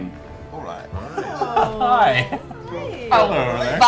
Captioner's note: laughs